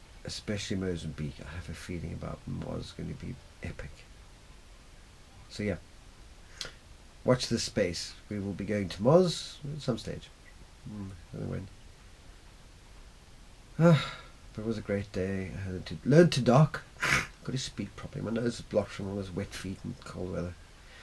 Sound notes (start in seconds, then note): 13.8 loud sigh